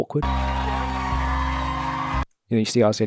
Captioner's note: audience applauding and cheering